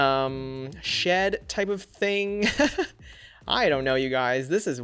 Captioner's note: laughs